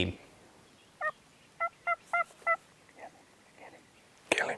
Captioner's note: turkey calling